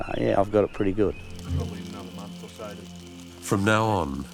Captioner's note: fire crackles